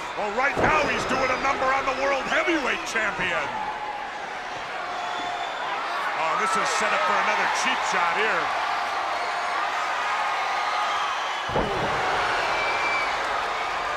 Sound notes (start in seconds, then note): 3.5 crowd yelling; 8.7 crowd cheering